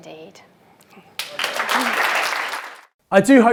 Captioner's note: applause